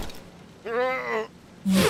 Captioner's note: groans